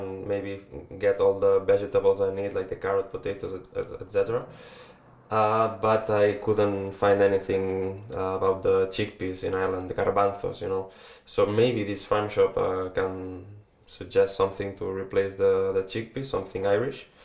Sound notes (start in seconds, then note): 10.1 in Spanish